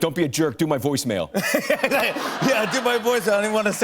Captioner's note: laughs